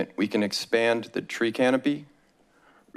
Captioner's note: none